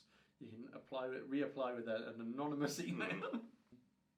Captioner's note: laughs